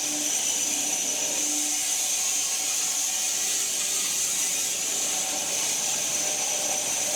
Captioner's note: woodcutting machine hissing continues